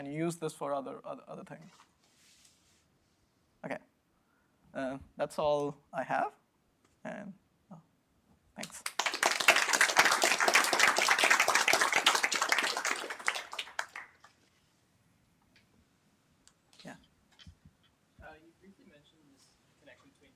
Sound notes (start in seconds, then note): 8.6 applause